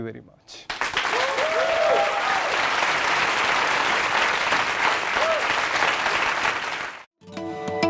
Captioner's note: applause